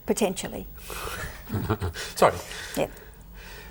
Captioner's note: laughs